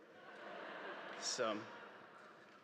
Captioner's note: audience laughing